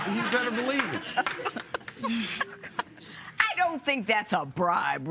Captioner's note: laughter